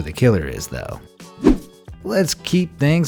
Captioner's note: air whooshing